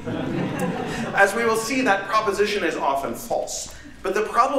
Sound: laughter

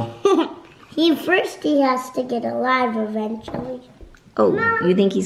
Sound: laughing

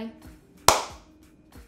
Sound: clap

